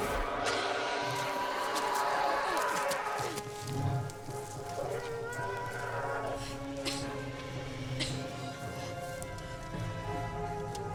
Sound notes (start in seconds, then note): 0.1 dragon roaring; 7.9 Freyja coughs